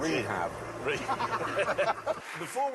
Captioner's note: all laugh